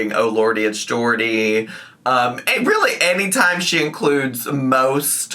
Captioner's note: none